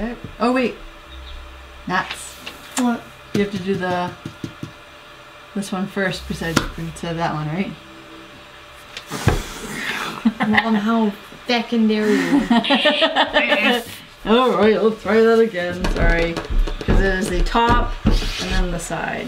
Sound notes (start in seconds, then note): 3.3 tap tap tap; 9.5 laugh; 9.8 sigh